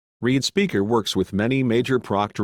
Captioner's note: male Computer Voice